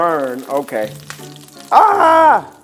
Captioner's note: dal sizzling